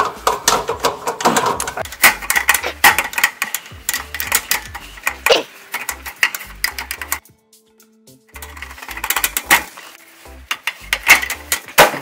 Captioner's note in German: Mehr energisches Klappern